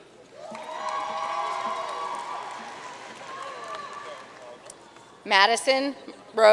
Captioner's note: audience cheering and applauding